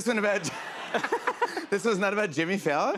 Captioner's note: laughter